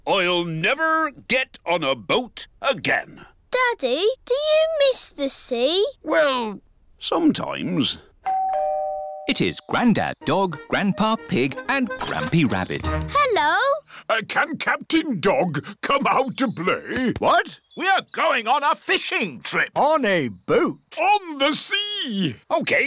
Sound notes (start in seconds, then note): 8.2 doorbell dings